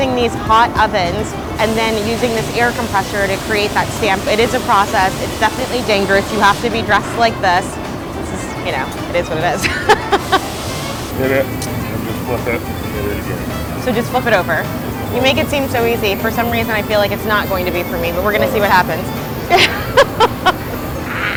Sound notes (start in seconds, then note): 9.1 laughs loudly; 19.5 laughs